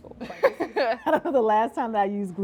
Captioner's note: both laugh